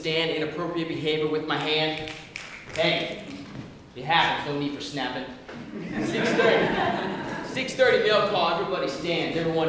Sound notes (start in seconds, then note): 1.5 snapping; 5.6 laughter